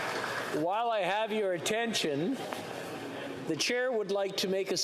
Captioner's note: some Applause